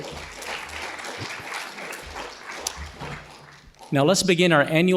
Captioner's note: audience applauding